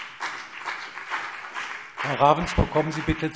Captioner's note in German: Beifall CDU und BÜNDNIS 90/DIE GRÜNEN